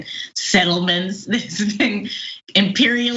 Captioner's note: laugh